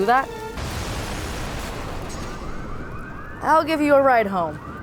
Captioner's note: explosion